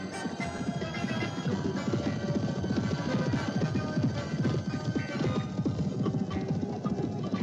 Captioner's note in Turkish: atlarin koşma sesi̇